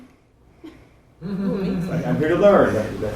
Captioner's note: student laughs